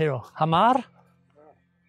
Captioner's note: speaking in foreign language